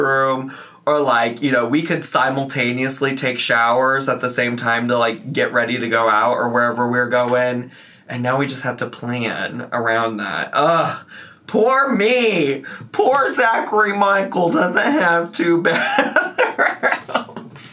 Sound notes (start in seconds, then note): 10.9 groans; 15.8 laughs